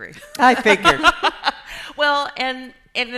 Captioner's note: laughing